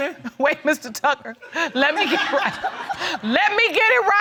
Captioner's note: laughs